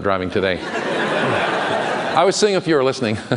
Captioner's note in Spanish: Risas